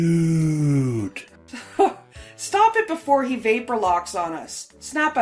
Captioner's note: chuckling